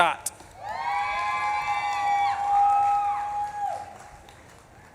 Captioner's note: audience claps and cheers